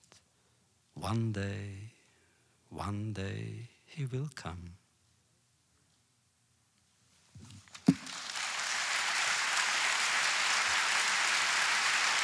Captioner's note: applause